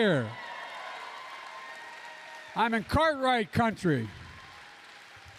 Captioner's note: applause